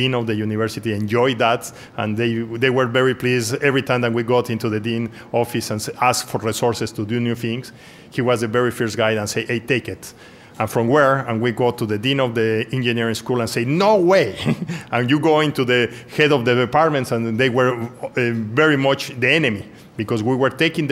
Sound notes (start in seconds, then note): 14.2 laughs